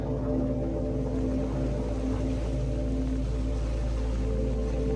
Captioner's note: water splashing